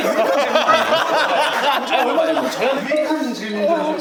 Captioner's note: still cracking up